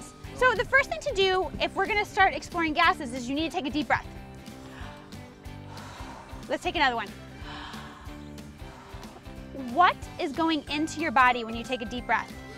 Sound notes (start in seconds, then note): 4.4 inhales; 4.4 exhales; 7.1 inhales; 8.6 exhales